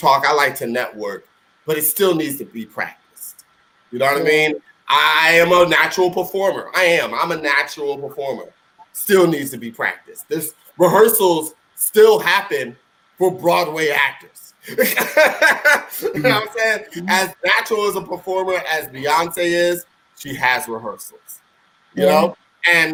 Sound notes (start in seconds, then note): 14.6 laughing